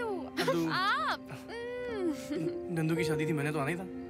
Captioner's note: Chuckles